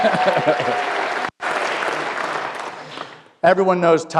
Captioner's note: applause